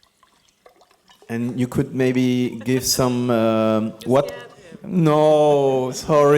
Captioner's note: laughs